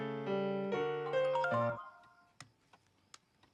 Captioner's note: cell phone chimes